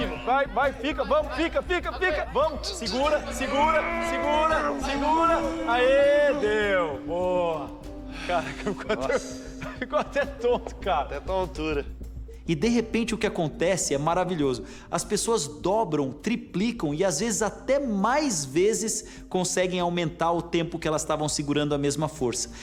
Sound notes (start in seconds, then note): 3.2 grunts; 7.8 exhales; 8.2 laughter